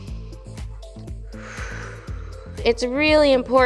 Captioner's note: inhales; exhales